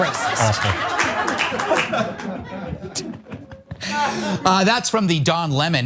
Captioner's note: applause